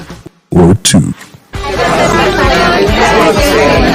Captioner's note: indistinct chatter